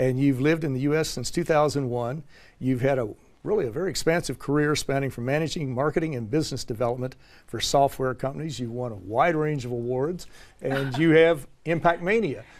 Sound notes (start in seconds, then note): 10.7 laugh